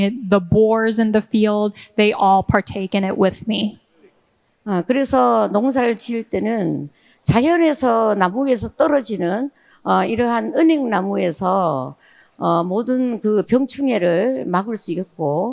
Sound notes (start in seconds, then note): 4.7 speaking in foreign language